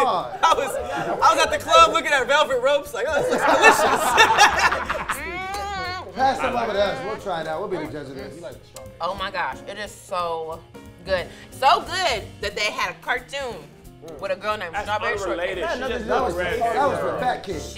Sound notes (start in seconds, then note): 3.0 group laughs; 5.0 moans